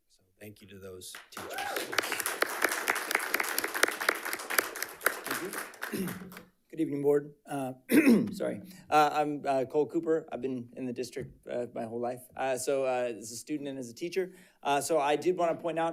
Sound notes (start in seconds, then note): 1.1 audience cheering and applauding; 7.9 coughs